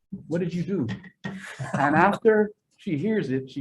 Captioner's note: chair laughing